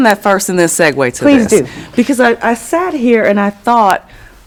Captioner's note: laughing